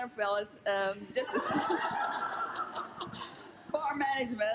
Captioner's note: laughing